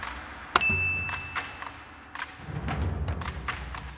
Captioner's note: snappy music; bell dings